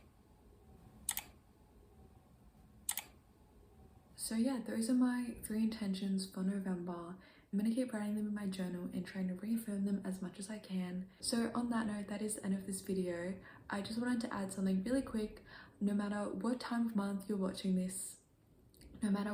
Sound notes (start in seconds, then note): 1.0 click